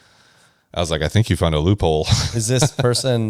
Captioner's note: laughs